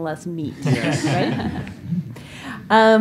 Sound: laughter

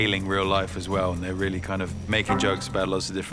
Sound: windows error sound

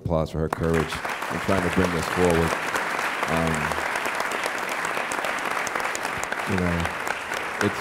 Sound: applause

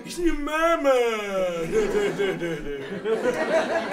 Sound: laughs

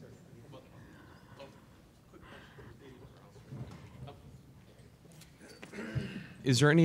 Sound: people chattering, indistinctly

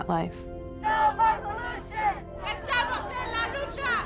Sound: speaking spanish

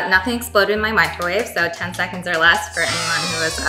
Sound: clapping hands

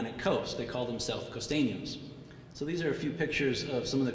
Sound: speaking in foreign language

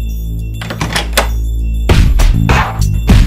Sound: door opening

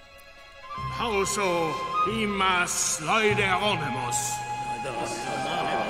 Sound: man speaking in Greek

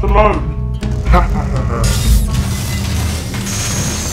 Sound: laughing; tense music

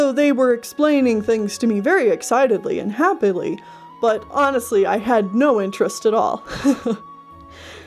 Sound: laughs

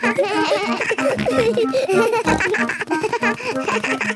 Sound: giggles; snorts, bleating

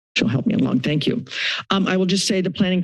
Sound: inhales

